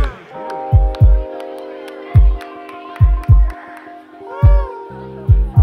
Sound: audience applauds

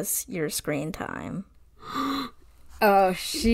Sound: gasp

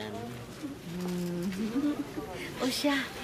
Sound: chuckles

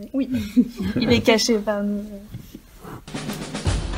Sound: laughs

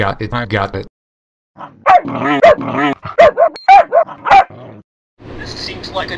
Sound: barks

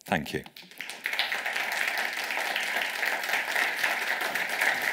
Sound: audience applauds

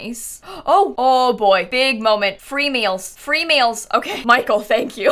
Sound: gasps

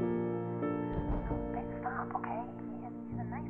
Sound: whispering

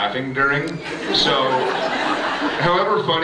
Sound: laughs

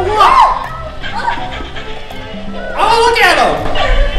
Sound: light scream

